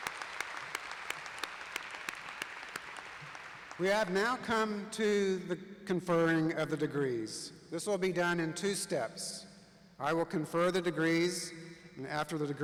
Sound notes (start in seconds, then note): 0.0 applause